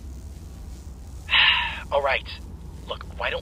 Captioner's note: sigh